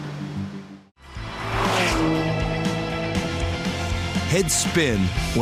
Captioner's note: car buzz